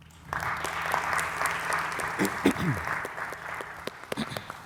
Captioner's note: audience applauding